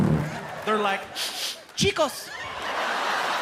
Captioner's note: sniffing